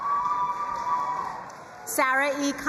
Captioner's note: crowd cheering and applauding